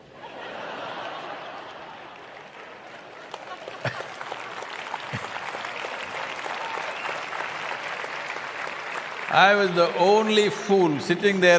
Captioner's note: applause